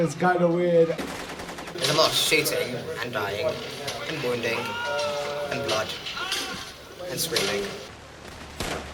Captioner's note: laughs